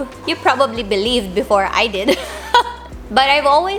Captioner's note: laugh